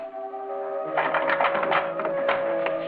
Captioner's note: door rattles